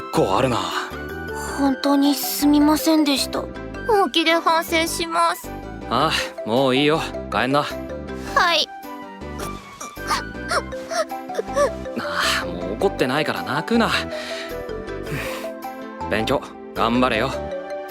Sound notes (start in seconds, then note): 10.4 starts crying; 14.9 reassured huff